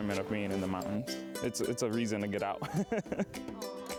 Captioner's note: chuckles